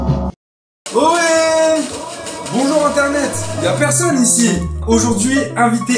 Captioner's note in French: echos